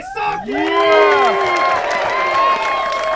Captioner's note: applause